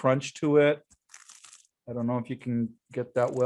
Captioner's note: bread crunches